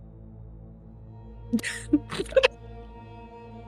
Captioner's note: laughter